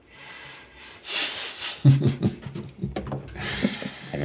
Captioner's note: men chuckle